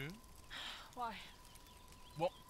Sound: exhaling sharply

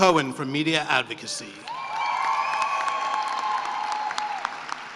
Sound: cheering and applause

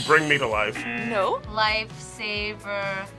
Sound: buzzer; buzzer rings

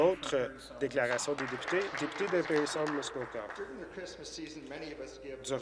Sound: applause

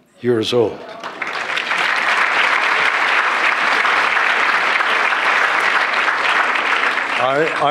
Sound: applause

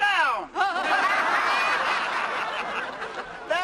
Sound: laughs

